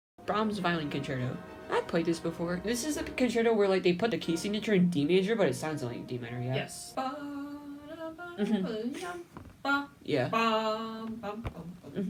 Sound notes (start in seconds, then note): 7.3 humming the beginning of the solo part of violin concerto